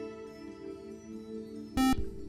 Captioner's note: buzzer